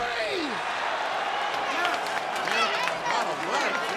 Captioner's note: group cheering